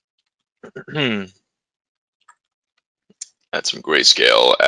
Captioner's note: clears throat